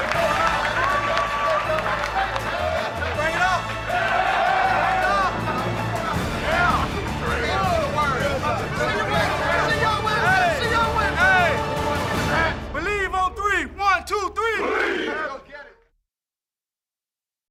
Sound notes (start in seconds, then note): 0.0 applause